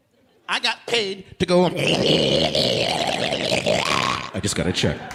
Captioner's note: growling